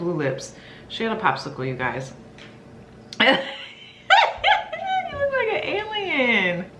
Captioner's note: laughs